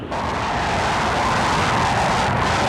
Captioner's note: plane noise